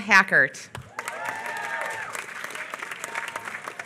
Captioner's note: applause